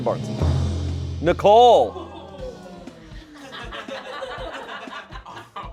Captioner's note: audience exclaims